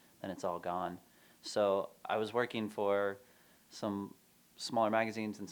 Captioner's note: none